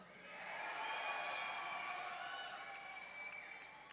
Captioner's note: audience cheering